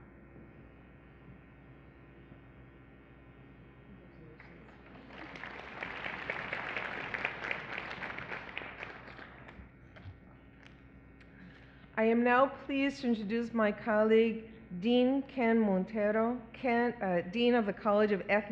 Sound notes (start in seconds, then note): 2.8 applause